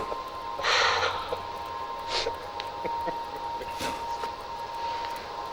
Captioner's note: laughs; Isabella sighs